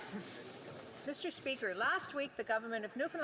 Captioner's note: some Applause